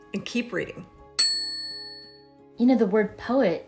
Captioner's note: bell dings